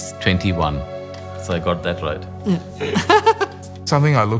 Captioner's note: laughing